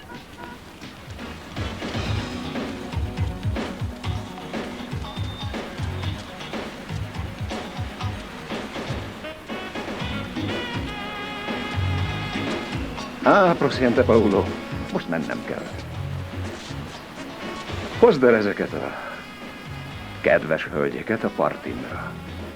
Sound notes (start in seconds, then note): 13.1 speaking Spanish